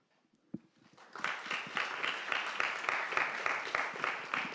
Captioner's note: applause